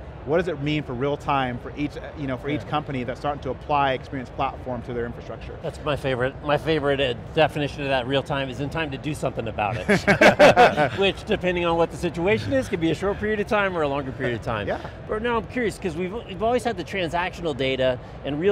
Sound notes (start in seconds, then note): 9.7 all laughing